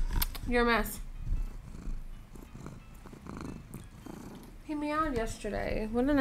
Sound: purring

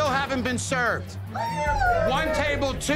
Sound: cheers

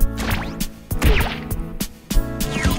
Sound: smash

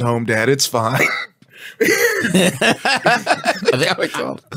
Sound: laughs

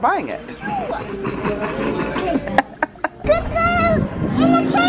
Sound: laughing

